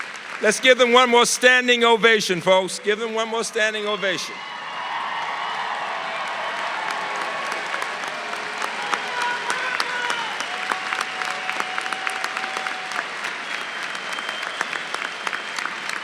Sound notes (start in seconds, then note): 4.1 applause